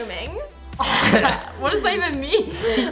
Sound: laughs

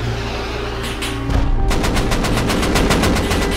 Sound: boom

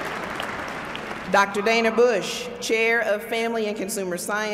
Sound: applause

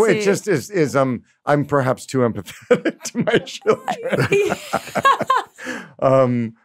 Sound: laughs

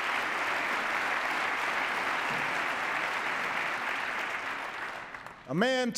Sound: applause

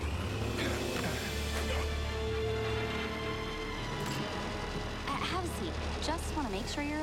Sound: grunts

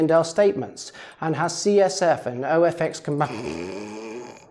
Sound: speaker snores

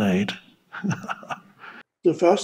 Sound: laughs

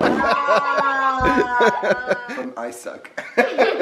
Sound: farting; laughing

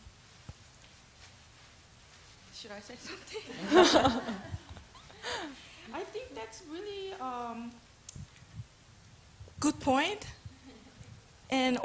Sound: laughter

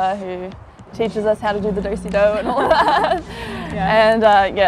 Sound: laughs

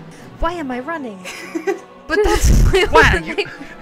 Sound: chuckles; laughter; laughs

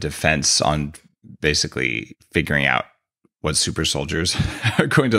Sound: chuckles

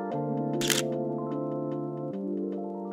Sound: camera shutter clicks

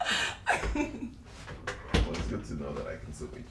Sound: Efosa laughs; door closes

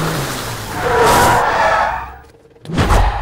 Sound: brakes squeak

